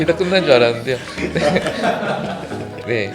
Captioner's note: laughs